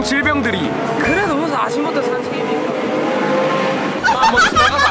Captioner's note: car passing